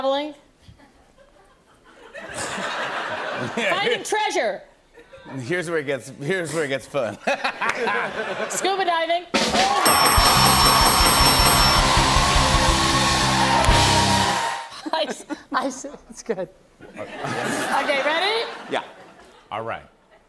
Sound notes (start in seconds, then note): 0.7 laughter; 7.1 laughter; 9.8 bell dinging; 11.2 fanfare; 16.9 laughter